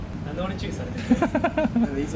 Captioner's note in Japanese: 笑い声